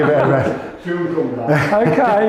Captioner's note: laughter